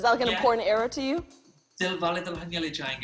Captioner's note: speaking non-English language